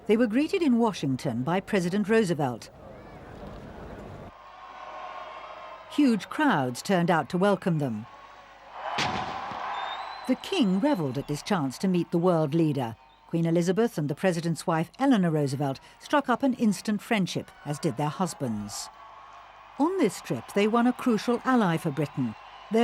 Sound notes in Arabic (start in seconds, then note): 4.3 هتافات الجمهور; 8.9 انفجار المدافع